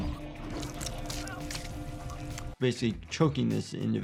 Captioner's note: bones crunching